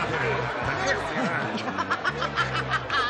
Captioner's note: laughter; upbeat music